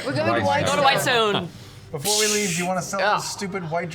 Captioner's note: piercing spell noise